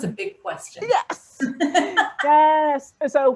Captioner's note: laughing